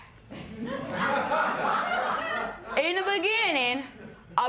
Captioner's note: laughter